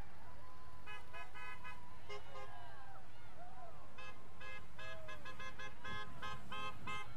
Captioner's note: vehicles honking; people cheering